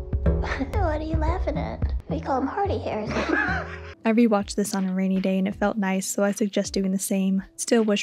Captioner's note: snorts and chuckles; laughs